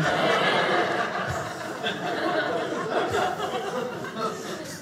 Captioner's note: audience laughing